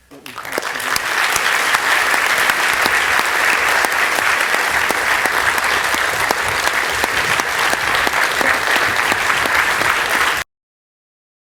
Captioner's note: applause